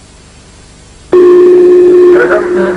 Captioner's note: inner marker sound